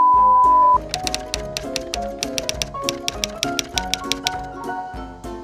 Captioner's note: typewriter tapping and cheerful music